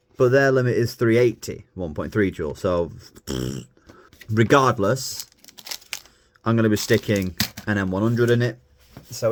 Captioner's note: blows raspberry